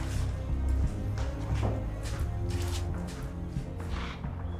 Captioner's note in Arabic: خطى